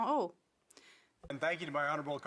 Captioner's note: speaking French